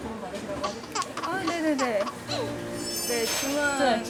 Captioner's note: gasp